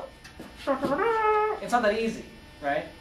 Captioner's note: mimics trumpet sound